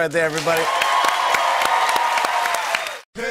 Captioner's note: cheers and applause